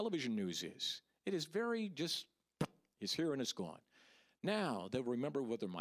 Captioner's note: pop